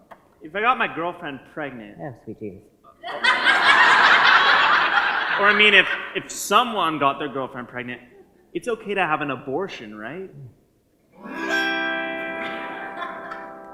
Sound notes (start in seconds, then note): 3.0 audience laugher; 11.1 playing autoharp